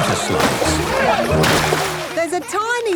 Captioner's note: laughing